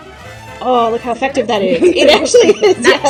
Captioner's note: laughing; laughter